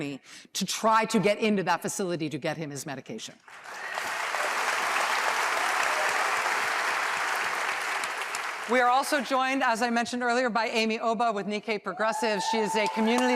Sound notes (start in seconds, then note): 7.7 applause